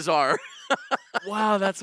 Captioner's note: laughing